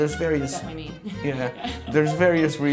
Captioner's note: laughs